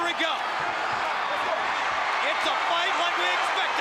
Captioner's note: crowd cheering